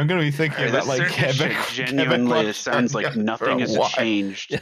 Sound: laughing

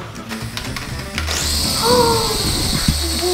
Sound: mechanical Whirring

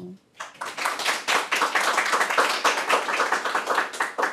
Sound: audience clapping

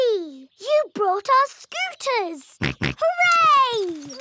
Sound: snorts

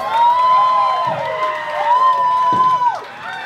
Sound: cheering continues

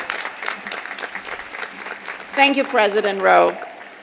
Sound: applause

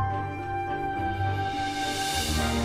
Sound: shooommm~

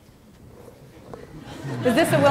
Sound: laughter

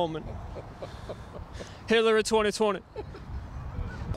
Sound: laughing

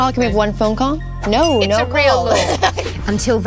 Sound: dings

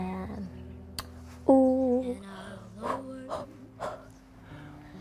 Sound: pant, pant, pant

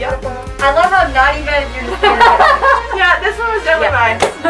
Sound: laughter

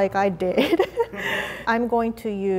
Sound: laughing

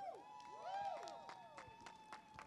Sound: cheers; clapping

